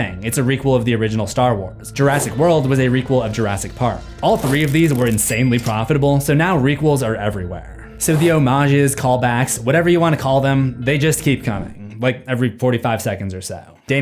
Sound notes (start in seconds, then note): none